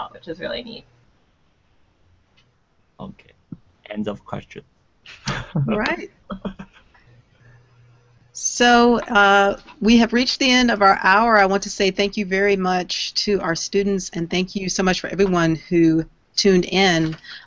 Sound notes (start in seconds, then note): 5.1 laughing